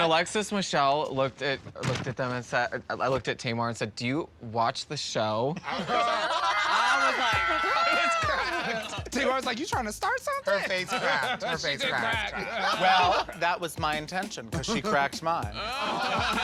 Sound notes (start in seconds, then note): 5.6 laughter; 6.4 frightened screams